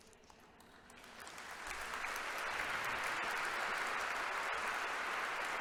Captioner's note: congregation applauding